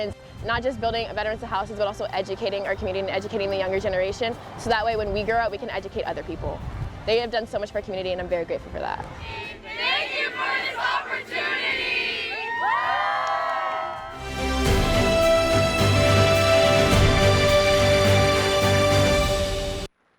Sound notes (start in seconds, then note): 9.8 group in unison; 12.2 cheering; 14.0 patriotic music